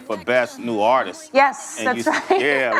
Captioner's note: laughs